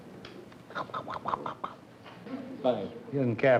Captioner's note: mimics chomping